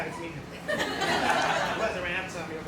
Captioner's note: crowd laughs